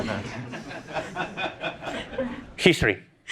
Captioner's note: laughter